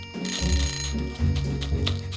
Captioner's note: timer sounds